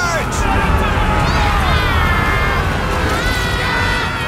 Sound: The Shades yelling

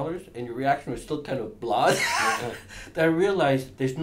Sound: laughs

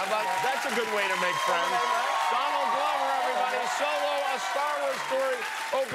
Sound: cheers and applause

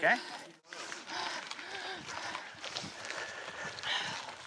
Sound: breathing heavily

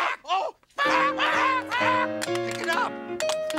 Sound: Muppets exclaiming

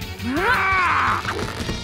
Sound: groaning

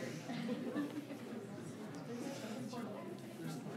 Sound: people murmur

